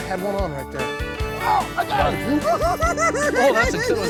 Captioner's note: giggling